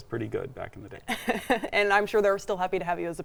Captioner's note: giggling